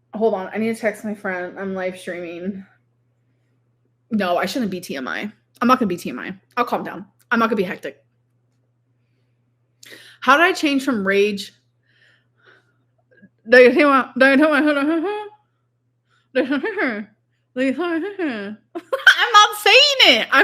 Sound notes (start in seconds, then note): 14.1 humming; 17.8 laughing